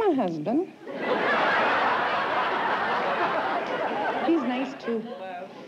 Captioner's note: laughter